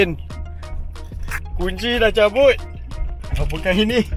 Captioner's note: engine still running